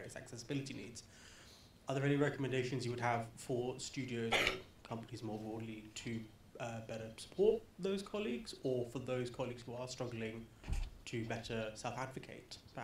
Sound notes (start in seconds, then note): 4.3 coughs